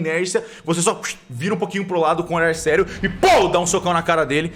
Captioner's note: pow